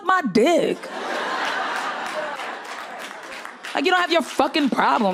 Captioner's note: crowd laughs